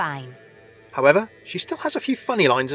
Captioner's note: voiceover